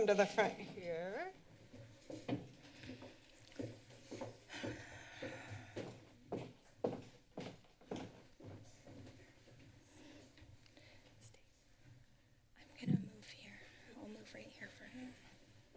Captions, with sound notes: Come to the front here. [shuffling][exhales][footsteps] -Stay. -I'm gonna move here. I'll move right here for her.